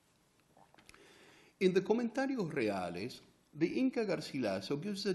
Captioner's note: spanish